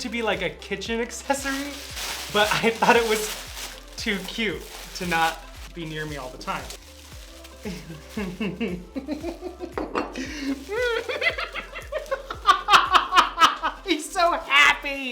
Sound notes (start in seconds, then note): 7.7 giggling; 10.3 laughing